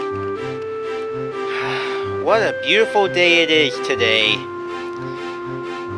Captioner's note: sigh